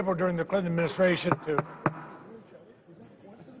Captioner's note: gavel bangs